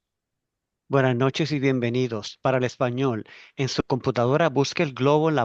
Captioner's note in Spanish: intérprete hablando en español